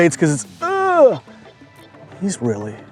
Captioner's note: fisherman groans